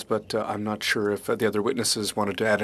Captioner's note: speaking French